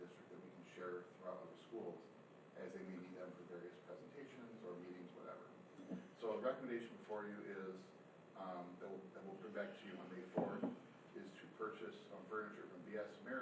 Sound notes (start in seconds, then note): none